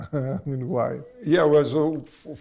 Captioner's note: laughs